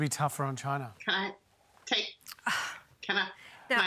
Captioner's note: sighs